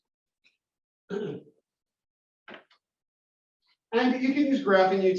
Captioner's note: cough